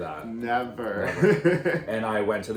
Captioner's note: chuckling